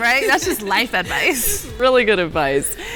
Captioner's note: laughing